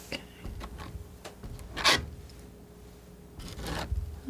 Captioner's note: scratching